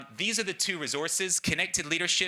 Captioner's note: none